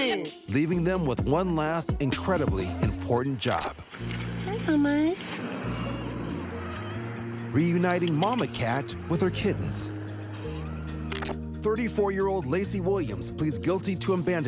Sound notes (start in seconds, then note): 6.1 cat meows